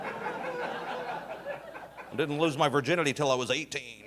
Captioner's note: audience laughing